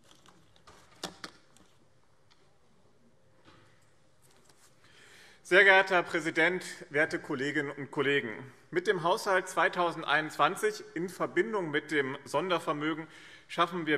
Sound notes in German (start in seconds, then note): none